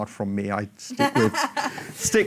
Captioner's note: laughs